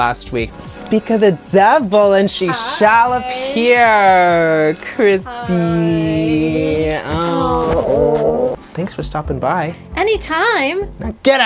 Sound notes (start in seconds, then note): 6.3 both of them coo